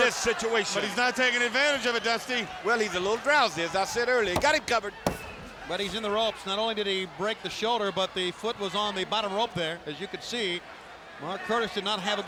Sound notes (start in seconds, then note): 4.2 hand thudding